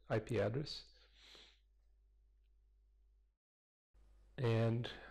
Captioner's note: pause